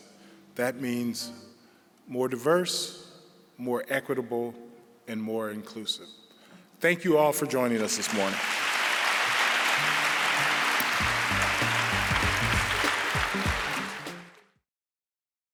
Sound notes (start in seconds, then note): 7.8 applause